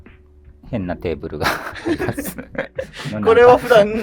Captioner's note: laughing